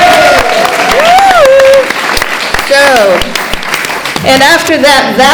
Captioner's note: cheering & Clapping